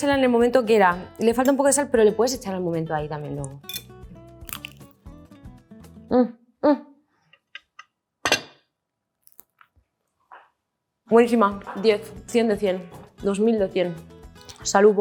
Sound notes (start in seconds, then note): 6.4 grunts; 11.2 speaks in Spanish